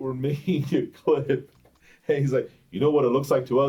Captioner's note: chuckles